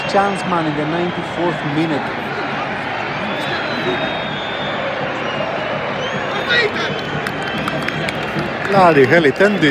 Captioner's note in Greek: Χειροκρότημα